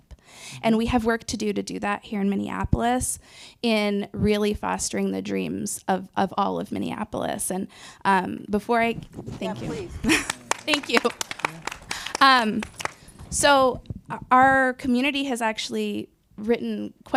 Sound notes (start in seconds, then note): 9.5 laughs; 12.7 audience applauding